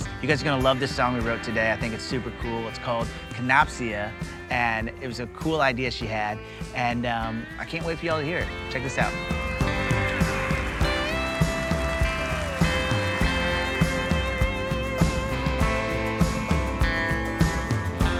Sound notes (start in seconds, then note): 9.7 cheers and applause